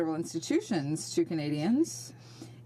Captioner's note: speaking French